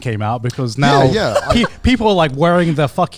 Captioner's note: laughs